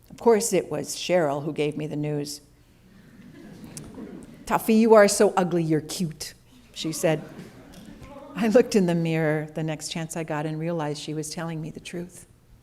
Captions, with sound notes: Of course it was Cheryl who gave me the news. [Laughter] 'Toughie, you are so ugly you're cute,' she said. I looked in the mirror the next chance I got and realized she was telling me the truth.